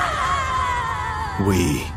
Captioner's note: screaming